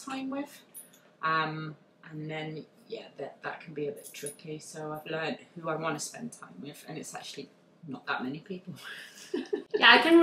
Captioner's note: laughs